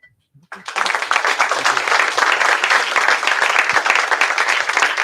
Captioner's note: applause